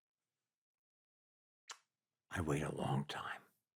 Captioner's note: clicks tongue